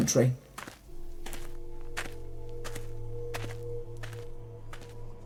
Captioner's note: footsteps on gravel